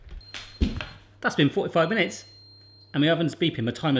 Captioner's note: beeping